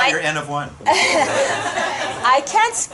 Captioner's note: laughter